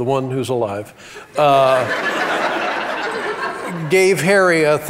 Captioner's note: audience laughs